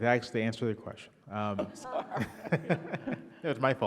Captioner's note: all laughing